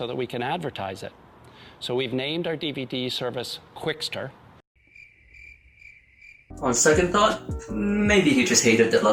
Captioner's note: cricket sounds